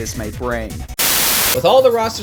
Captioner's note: TV static